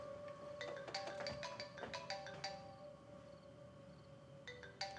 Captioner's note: phone ringing